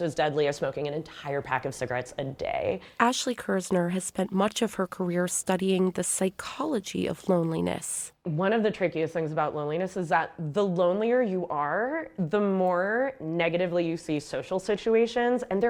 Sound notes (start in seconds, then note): 3.5 voice-over